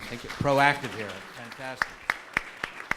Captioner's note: audience applauds